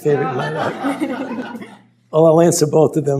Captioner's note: laughter